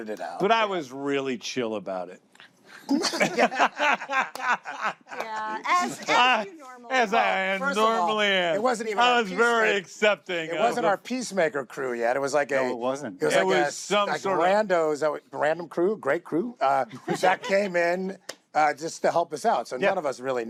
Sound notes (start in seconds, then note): 2.8 laughter